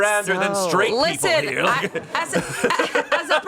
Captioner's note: everyone laughs